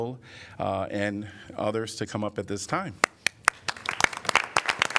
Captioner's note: applause